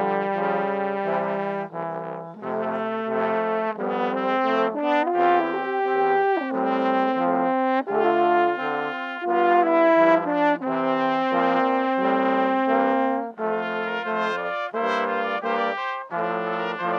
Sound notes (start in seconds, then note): none